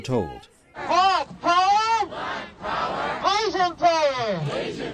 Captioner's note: chanting